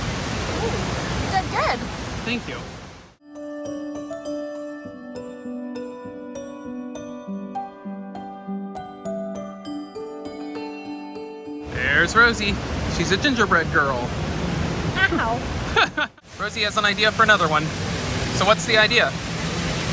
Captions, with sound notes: Ooh, you did good! Thank you. There's Rozie! She's a gingerbread girl! Ow! (Laughs) Rozie has an idea for another one. So what's the idea?